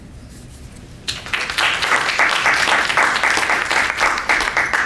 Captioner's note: applause